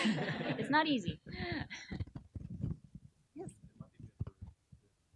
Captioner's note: audience laughing